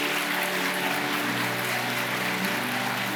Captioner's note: audience applauding; solemn organ music